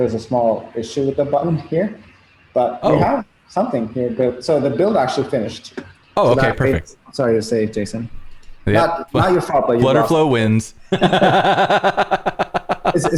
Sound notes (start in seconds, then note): 10.8 laughter